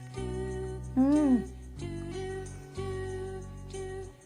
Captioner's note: inhale